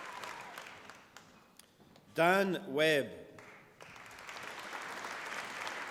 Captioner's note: applause